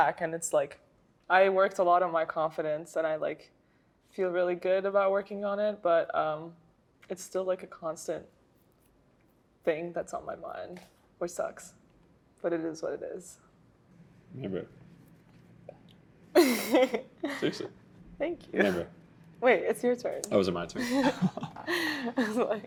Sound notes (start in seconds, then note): 15.0 whispers; 16.4 laughs